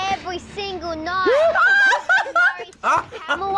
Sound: laughs loudly; chuckles

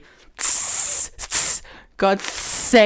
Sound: hisses

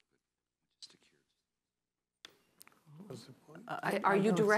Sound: whispering

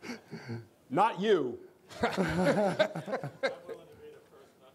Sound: laughter

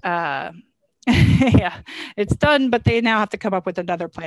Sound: laughs

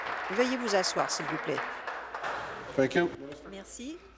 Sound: applause

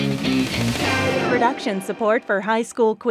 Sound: voiceover

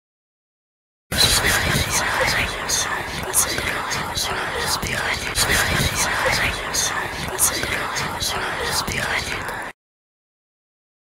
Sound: whispers

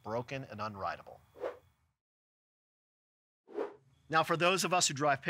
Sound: screen whooshing

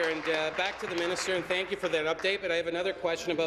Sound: applause

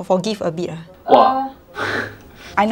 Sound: laughs

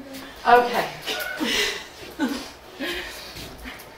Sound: audience laughing

